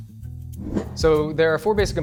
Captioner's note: whoosh